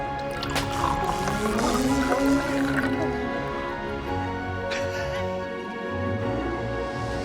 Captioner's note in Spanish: máquina zumbando